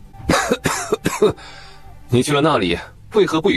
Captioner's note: coughs